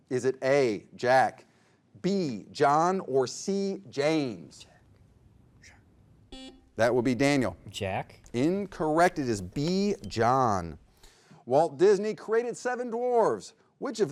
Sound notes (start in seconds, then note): 6.3 buzzer beeps